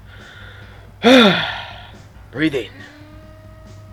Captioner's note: sigh